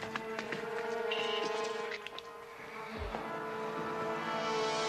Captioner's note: undead moaning; dramatic music